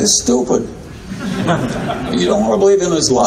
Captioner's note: audience laughing